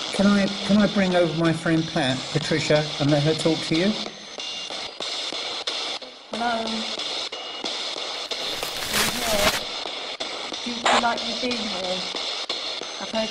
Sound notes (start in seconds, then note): 8.2 pat; 8.2 screen crackling